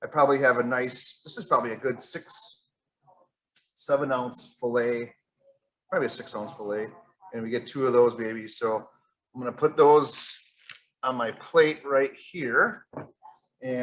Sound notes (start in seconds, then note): none